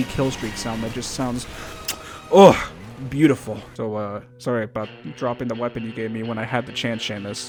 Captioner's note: kiss